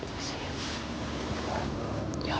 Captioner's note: whispering